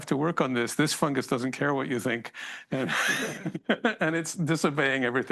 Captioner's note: laughs